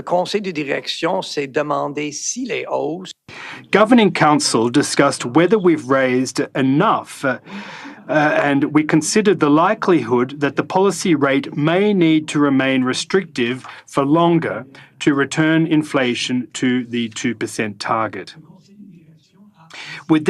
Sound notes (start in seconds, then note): 4.3 speaking French